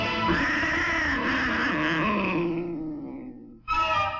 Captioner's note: cat growls